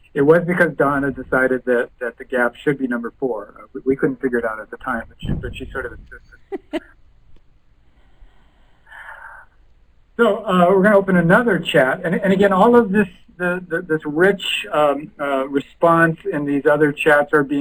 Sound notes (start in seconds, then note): 6.0 chuckle